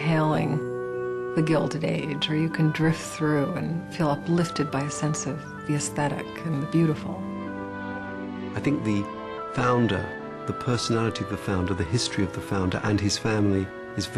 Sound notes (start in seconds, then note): 8.4 voiceover